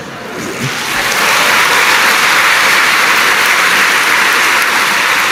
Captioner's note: applause